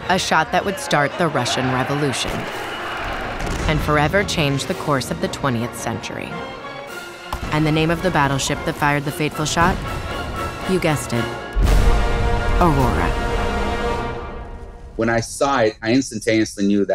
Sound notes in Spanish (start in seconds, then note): 2.4 zumbido de película